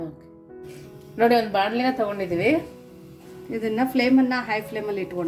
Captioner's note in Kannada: ಬುಸುಗುಟ್ಟುವಿಕೆ